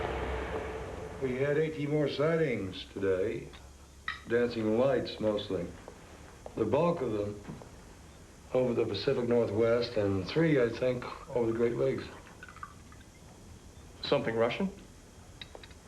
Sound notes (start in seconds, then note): none